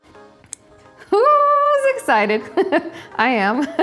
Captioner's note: laughs